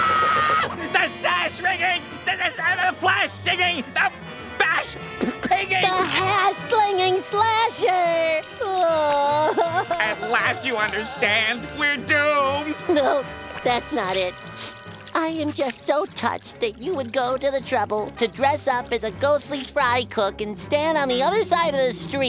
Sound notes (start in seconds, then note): 8.6 crying